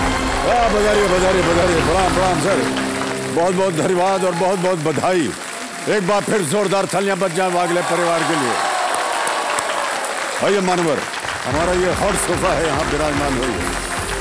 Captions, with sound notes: Welcome! Greetings! Thank you very much. Congratulations! Let's hear it once again for the Waghle family. [cheering] Welcome, Sir. Please sit on our hot sofa.